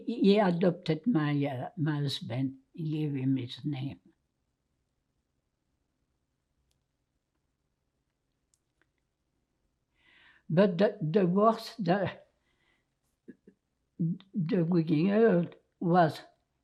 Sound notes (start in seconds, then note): 4.1 pauses 6 seconds